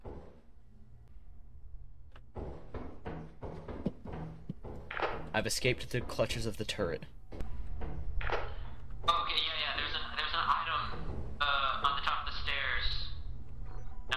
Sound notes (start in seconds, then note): none